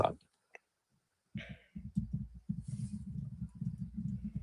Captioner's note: typing